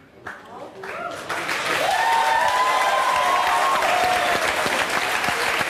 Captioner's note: audience applauding, cheering